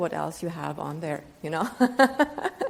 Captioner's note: laughs